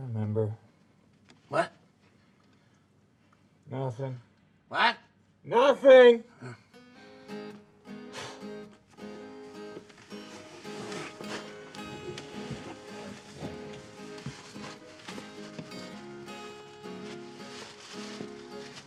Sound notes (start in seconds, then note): 7.1 gentle upbeat music; 8.1 Isaac sighs